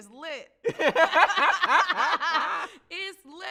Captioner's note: both laugh